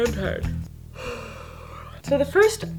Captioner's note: yawning deeply